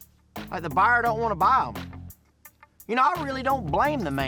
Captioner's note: scoffs